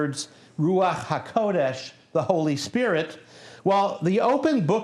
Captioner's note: non-english speech